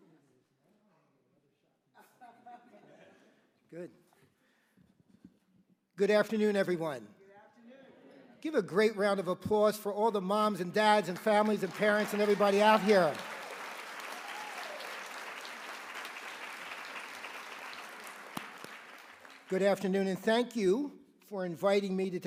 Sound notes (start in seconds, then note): 13.5 applause